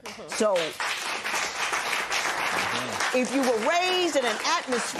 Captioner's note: applause